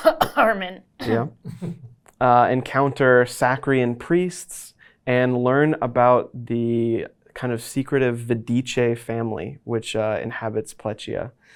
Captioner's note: cough